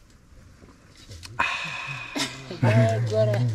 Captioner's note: smacks his lips